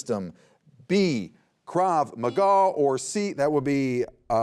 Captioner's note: buzzer beeps